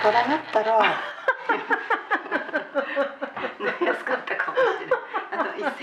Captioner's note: laughter